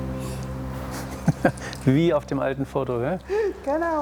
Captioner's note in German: Er lacht